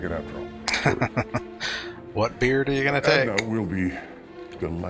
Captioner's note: laughing